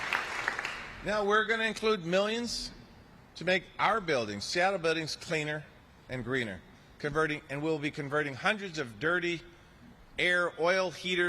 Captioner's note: applause